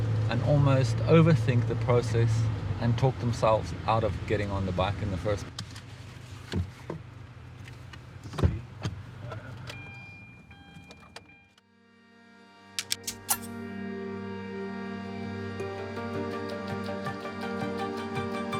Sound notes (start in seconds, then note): 9.5 car door beeping; 13.1 logo ticks; 14.3 gentle music